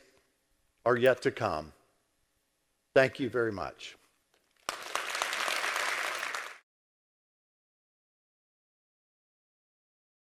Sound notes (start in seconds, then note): 4.6 applause